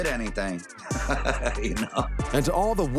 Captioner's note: laughs